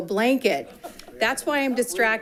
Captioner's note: group laughing